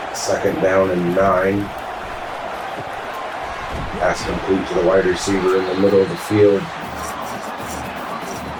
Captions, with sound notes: Second down and nine. [Crowd Noises] That's complete to the wide receiver in the middle of the field. [Crowd Noises]